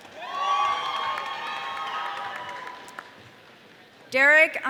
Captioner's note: audience cheering